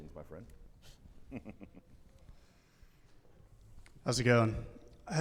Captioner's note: chuckles